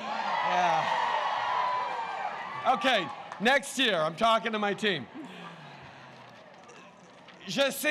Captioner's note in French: Acclamations